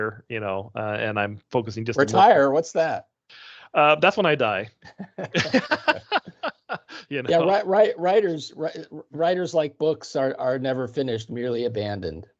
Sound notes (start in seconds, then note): 4.8 laughing